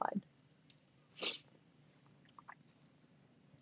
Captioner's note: silence